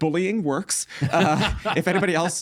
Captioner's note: laughing